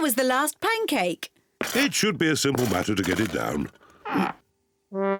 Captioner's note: grunts